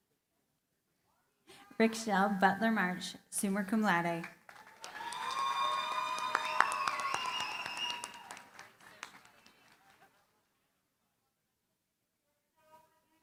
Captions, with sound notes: Rikchele Butler-Marsh, summa cum laude. [CHEERING, APPLAUSE]